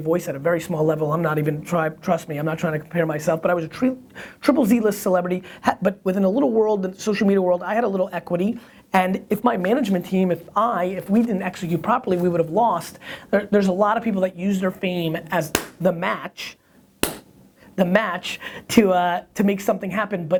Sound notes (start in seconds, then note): 17.0 flesh smacking